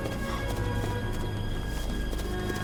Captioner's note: running footsteps